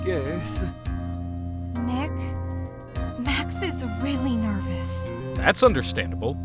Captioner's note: whispering